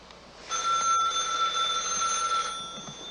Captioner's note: ringing